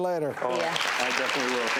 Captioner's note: applause